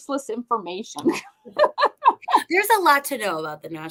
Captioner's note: laughter